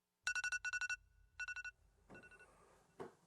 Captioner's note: alarm sounding